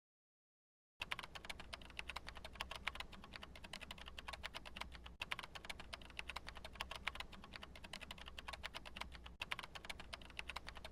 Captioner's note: keyboard clicking